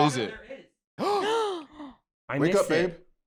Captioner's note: gasp